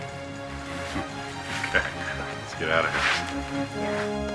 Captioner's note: chuckles